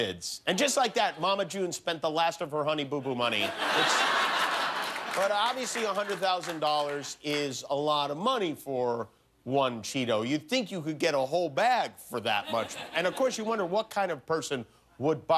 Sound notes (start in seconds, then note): 3.2 laughter